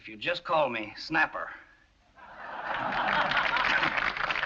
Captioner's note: crowd laughs